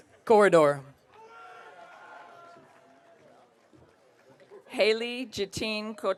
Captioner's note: audience cheering